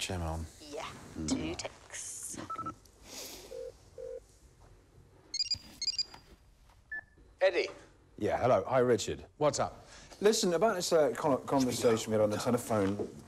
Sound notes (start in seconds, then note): 3.1 phone ringing